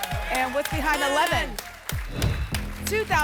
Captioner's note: whoosh